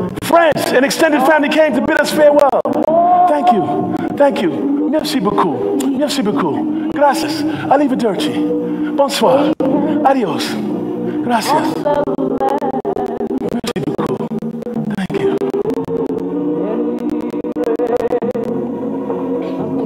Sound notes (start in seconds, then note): 5.0 speaks foreign language; 14.3 melancholic music; 16.9 melancholic music